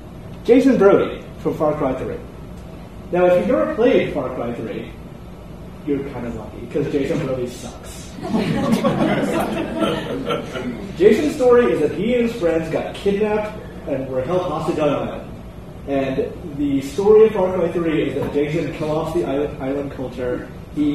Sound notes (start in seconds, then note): 8.2 audience laughter